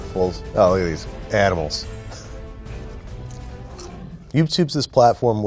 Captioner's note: laughs